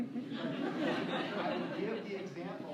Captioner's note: laughter